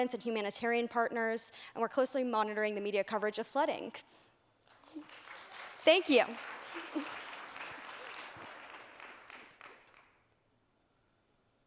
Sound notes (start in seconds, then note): 6.6 applause